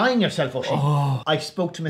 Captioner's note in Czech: povzdechne si